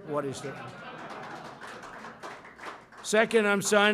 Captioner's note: laughter and applause